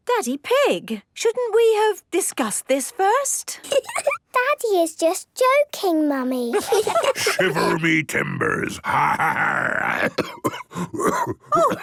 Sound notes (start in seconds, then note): 3.9 laugh; 6.7 menacing voice; 8.9 growls; 9.9 cough